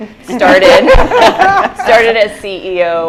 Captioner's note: laughter